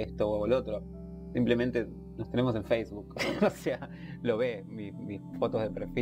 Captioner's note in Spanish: ríe